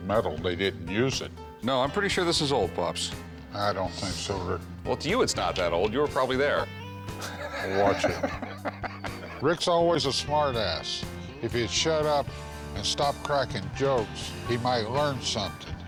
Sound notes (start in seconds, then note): 7.2 laughter